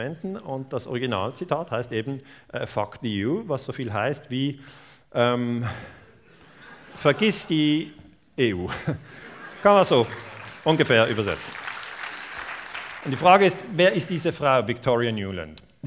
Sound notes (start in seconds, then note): 13.1 applause